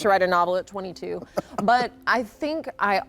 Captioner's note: laughs